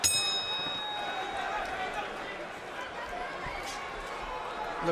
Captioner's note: bell rings